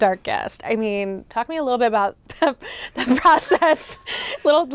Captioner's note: laughing